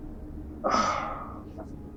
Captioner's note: sighs